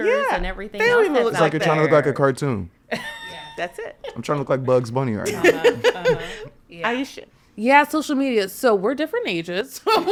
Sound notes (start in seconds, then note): 4.0 podcaster laughing; 5.2 podcasters chuckling; 9.9 podcasters laughing